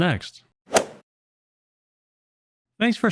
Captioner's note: golf swing sound effect